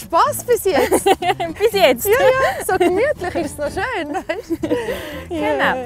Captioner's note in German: Lachend